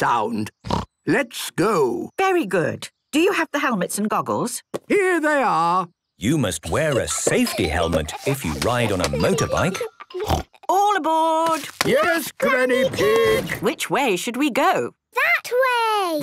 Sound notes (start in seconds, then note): 0.6 snort; 10.2 snort